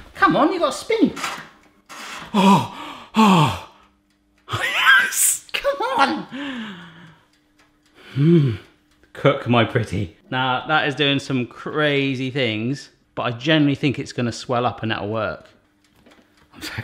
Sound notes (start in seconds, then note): 1.9 gasps